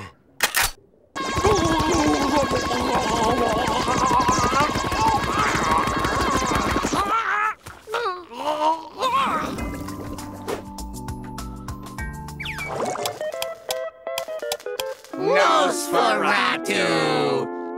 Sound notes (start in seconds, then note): 0.1 clicking; 7.8 groaning; 12.4 clicking